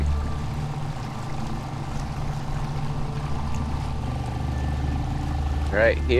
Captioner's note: boat engine revving; water sloshing gently